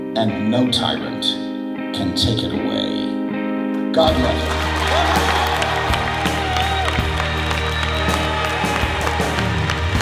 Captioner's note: cheers, applause